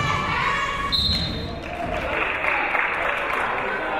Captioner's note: whistle blows; crowd clapping